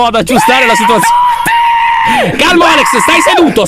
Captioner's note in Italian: urlando